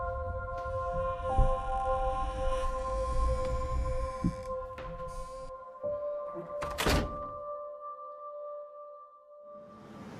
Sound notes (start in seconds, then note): 1.3 door squeaks and closes